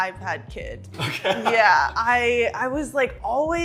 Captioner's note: laughing